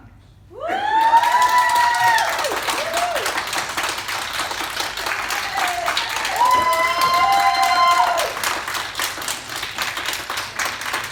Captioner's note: cheering and clapping; cheering from public gallery